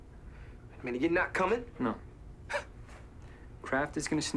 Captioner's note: scoffs